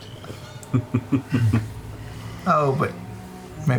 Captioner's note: chuckling